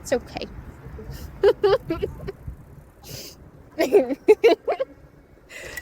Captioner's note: laughs